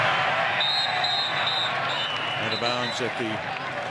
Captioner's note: whistle